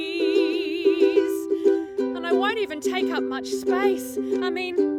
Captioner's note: speaks